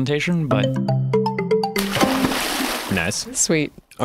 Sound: splashing

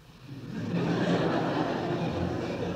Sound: laughter

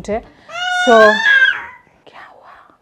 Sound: crying

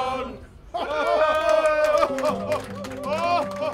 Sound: cheering

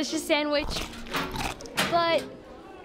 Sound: locker closes

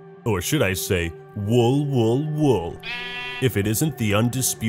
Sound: Minecraft sheep noises

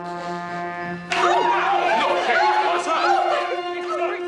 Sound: all gasp

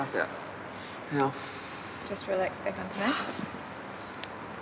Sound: exhales

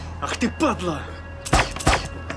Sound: gunshots

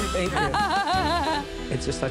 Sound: laughing; laughs

